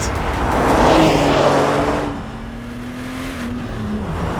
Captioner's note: engine revving